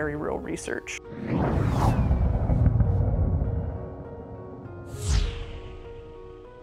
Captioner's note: air whooshing; soft piano music